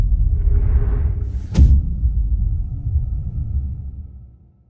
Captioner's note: dramatic sound